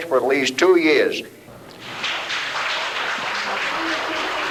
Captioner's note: applause